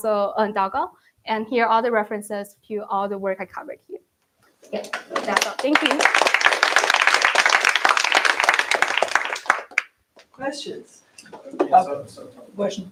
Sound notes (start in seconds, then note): 7.2 applause